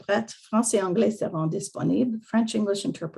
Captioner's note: French